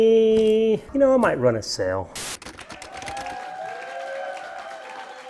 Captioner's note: crowd applauding